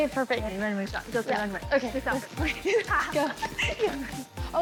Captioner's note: both chatting, laughing